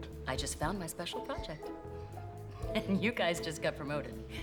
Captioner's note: laughs